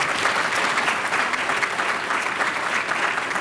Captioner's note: applause